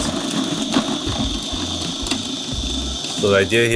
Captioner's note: food processor whirring